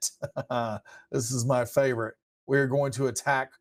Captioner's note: chuckles